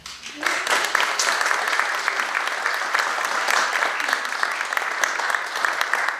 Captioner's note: audience applauds